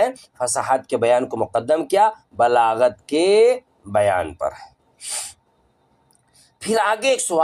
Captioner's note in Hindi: नाक से की जाने वाली आवाज़